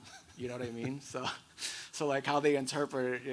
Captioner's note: laughs